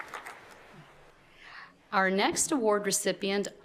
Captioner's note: appluase